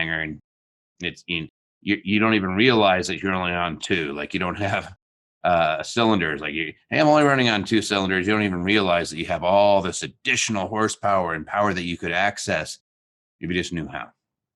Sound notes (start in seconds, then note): 4.4 chuckles